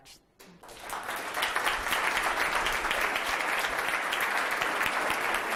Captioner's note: audience applauding